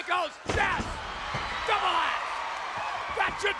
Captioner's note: audience cheering